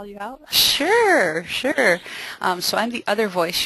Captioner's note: voiceover